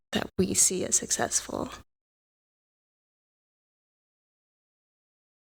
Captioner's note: audio out